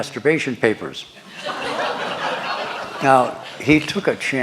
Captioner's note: laughter